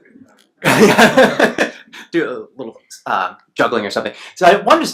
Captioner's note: laughs